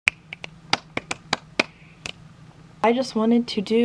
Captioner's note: snap snap snap snap snap clap clap clappity clap